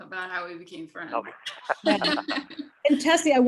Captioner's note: laughing